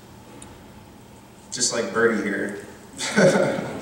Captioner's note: laughs